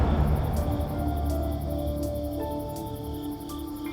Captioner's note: crickets chirping